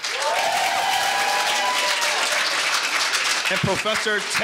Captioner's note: audience cheering and applauding